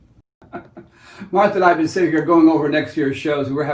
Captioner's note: laughs